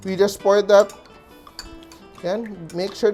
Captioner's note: clang